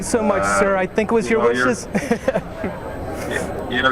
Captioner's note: laughs